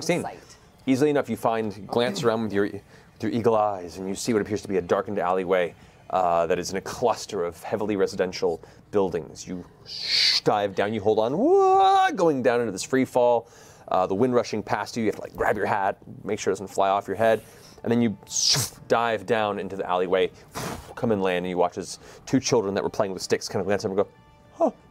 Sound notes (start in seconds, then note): 9.9 screams